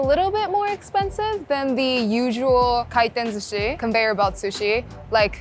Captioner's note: speaking Japanese